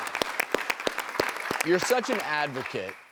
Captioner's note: audience applauding